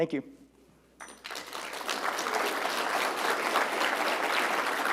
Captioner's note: applause